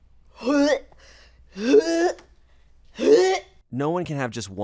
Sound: customer dry heaves

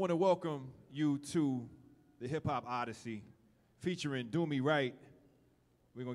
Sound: none

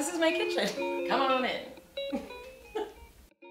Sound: laughing

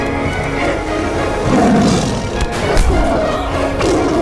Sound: tiger roars

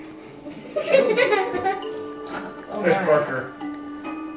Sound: eerie carnival music; laughter

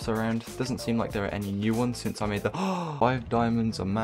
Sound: gasp

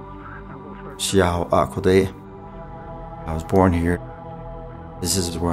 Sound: navajo language

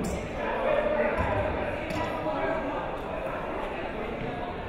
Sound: crowd chattering

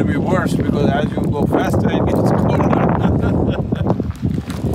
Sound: laughs

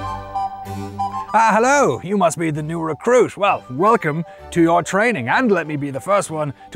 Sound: in a knightly voice

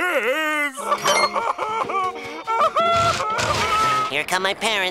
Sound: crying

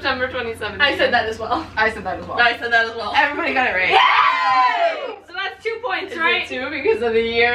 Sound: cheers

